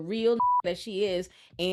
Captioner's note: beep